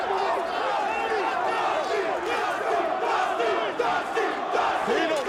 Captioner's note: audience chanting